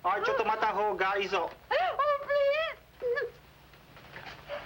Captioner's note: speaking foreign language